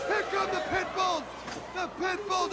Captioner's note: crowd cheering